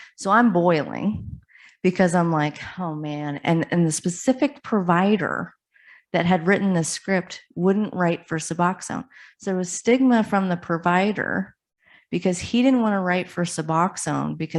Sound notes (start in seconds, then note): none